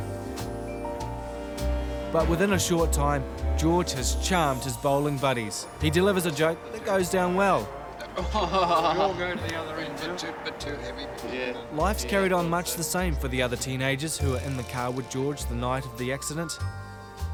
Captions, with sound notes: But within a short time, George has charmed his bowling buddies. He delivers a joke that goes down well. [laughs] Life's carried on much the same for the other teenagers that were in the car with George the night of the accident.